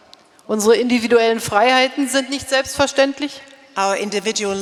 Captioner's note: speaking in German